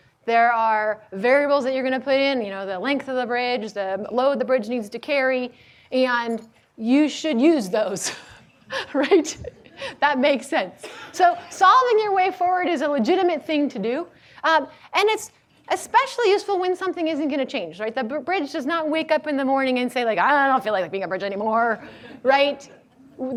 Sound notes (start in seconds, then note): 8.5 laughs